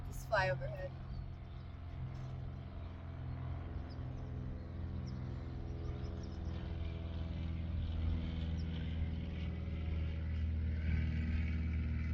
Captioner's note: plane whirring